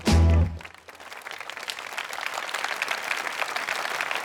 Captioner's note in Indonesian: Tepuk tangan